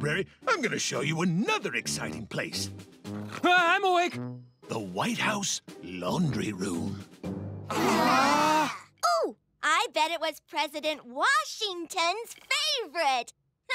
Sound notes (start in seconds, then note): 7.7 all groan